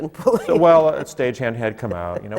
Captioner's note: laughs